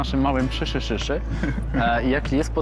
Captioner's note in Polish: śmiech